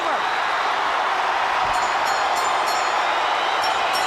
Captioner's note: crowd cheering; bell ringing